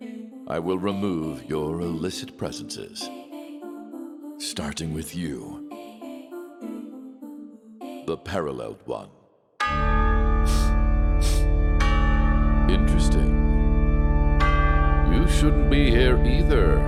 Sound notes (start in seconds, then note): 10.5 sniff